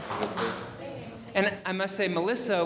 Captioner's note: audience applauding